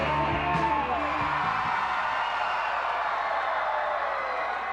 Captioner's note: crowd cheering